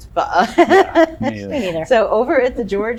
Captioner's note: laughs